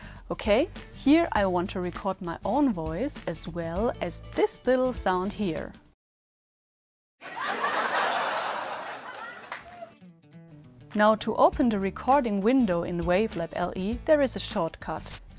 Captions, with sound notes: Here I want to record my own voice as well as this little sound here. (laughter sound) To open the recording window in Wavelab LE there is a shortcut: